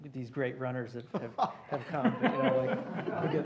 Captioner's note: laughter